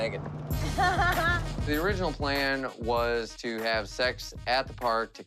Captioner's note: laughs